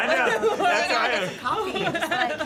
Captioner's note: laughter